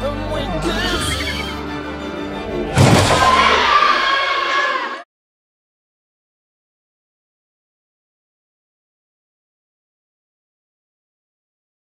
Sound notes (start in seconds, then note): 2.8 monster screams